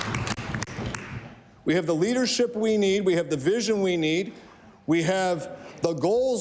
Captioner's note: applause